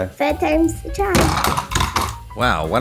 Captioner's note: bonk!